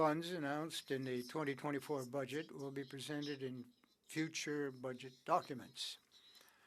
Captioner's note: speaking French